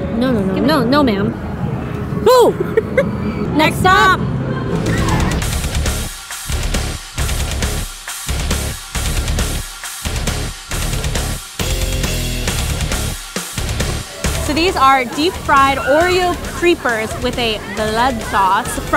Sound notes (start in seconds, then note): 2.3 laughing; 4.9 metal music